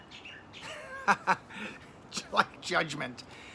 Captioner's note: laughing